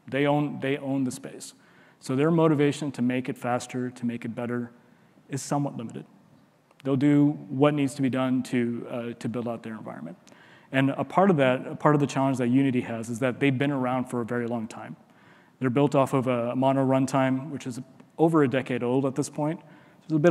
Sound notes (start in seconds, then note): none